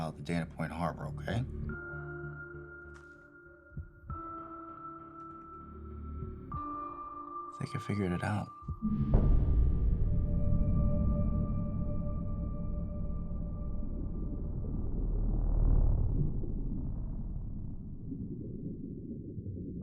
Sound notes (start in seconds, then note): 2.1 pensive music; 9.2 dramatic music; 9.2 water gurgling